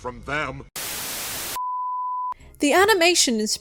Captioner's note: static